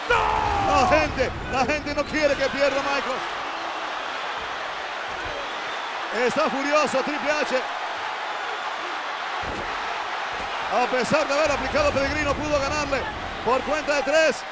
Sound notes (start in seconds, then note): 3.0 applause